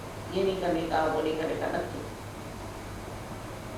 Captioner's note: hindi